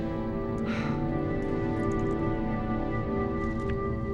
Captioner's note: Jill sighs